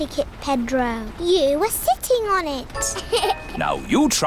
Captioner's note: laughs